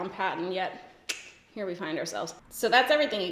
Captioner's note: clicks tongue